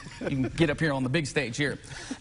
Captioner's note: laughing